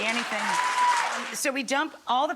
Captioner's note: audience applauding